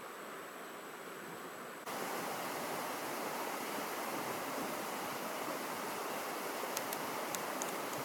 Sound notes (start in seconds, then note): 1.9 water babbling